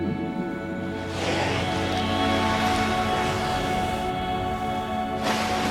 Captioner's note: water burbling; whale exhaling loudly; whale splashing